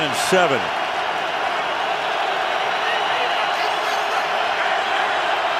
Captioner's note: cheering